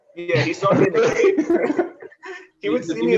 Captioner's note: laughter